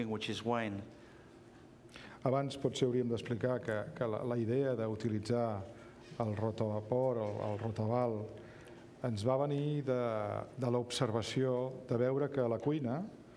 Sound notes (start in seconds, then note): 6.4 speaking catalan